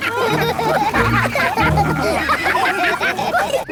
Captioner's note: all laugh